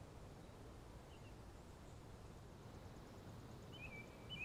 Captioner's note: birds singing